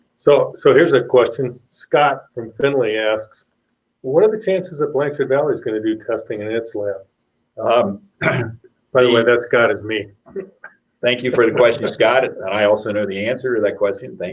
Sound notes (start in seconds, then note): 11.3 laughs